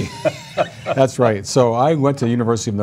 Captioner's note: laughter